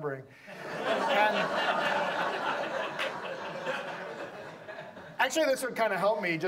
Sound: audience laughs

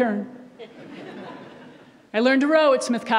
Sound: audience laughs

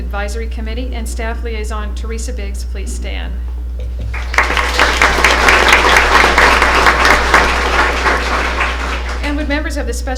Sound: applause

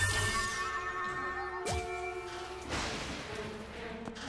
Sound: thunder

